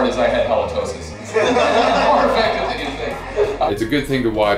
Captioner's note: laughter